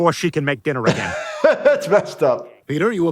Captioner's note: laughing